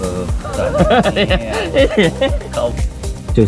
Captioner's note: laughter of the rescue